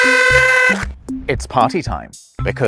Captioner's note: party horns